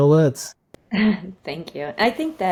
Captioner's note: chuckles